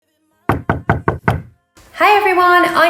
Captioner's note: knocking